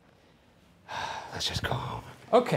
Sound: sighs

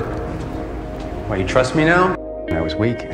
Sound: voiceover

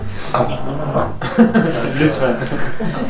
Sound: laughs

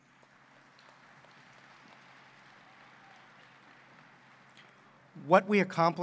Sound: applause

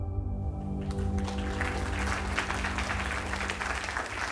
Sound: crowd applauding

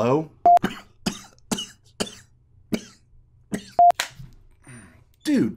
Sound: coughing

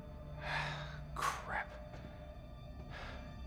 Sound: sigh

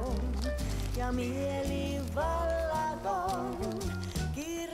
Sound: counting of cash

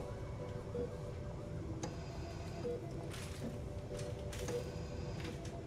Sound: monitor beeping steadily

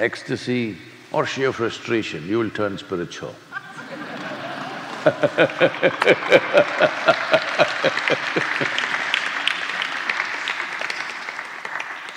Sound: laughter/ Applause

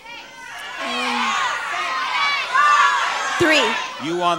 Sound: audience yelling

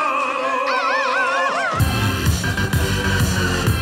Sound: yelling; dance music

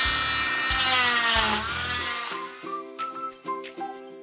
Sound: drill continues buzzing; upbeat music

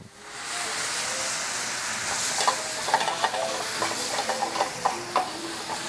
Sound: voiceover; sizzling

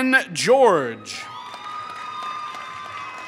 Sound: applause

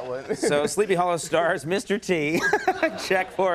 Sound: laughs

